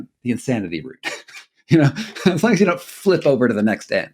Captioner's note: chuckling